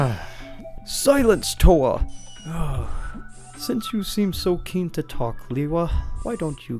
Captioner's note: frustrated sounds; heavy sigh